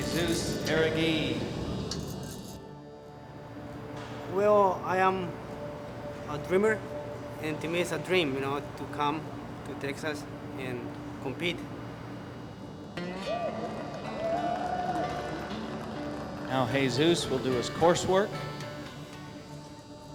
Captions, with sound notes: JESUS JARUEGUI. - WELL, I AM A DREAMER. AND TO ME, IT'S A DREAM, YOU KNOW, TO COME TO TEXAS AND COMPETE. [cheers and applause] - NOW JESUS WILL DO HIS COURSE WORK.